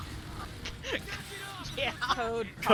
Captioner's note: laughs